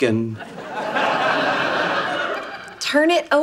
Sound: audience laughing

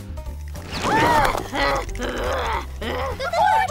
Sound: sneezing; gasping

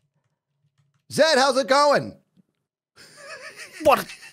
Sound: loud voice; laughs

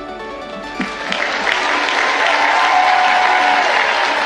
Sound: audience clapping

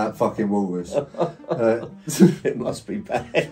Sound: father laughing

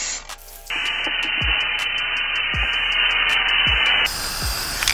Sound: buzz of spray can

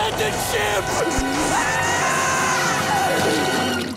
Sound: screaming

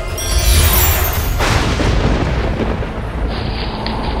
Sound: thundering

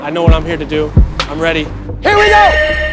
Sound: buzzer beeps

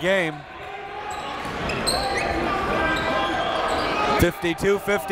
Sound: crowd talking

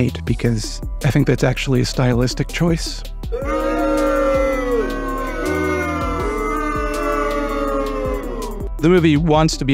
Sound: crowd boos

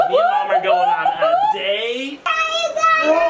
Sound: whooping

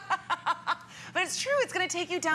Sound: laughter

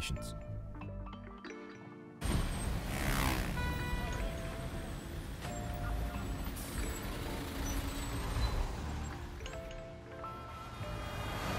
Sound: chil electronic lowfi beat; cars, sounds of townlife

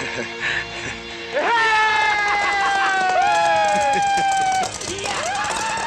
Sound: howling

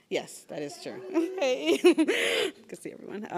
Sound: laughs

